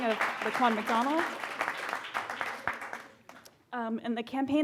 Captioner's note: audience claps